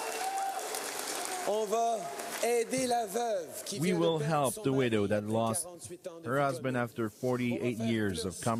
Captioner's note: cheering and Applause; speaking in French